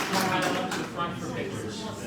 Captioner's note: applause